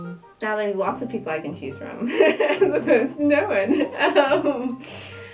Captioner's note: laughing